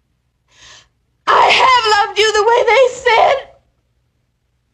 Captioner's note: crying